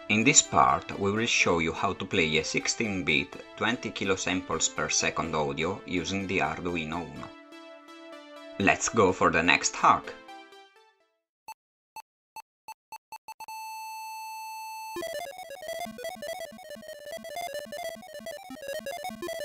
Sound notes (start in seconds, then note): 16.1 beeps